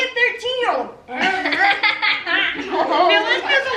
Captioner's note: everyone laughs